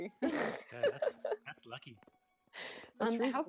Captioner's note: laughter